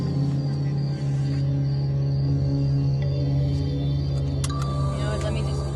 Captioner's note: seatbelt buckle clicks